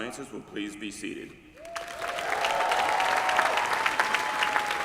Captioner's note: applause